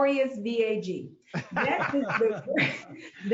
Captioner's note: laugh